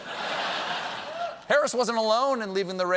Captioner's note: laughter